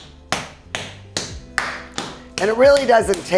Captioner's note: mallet beating